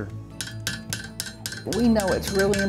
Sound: tool bangs

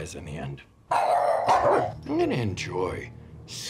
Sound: barking

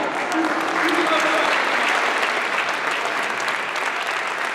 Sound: applause

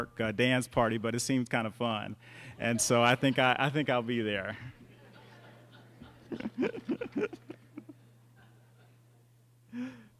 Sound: laughter

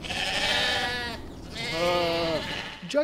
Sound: sheep bleating

